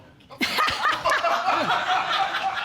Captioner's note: laughing